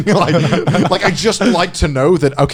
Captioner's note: all laughing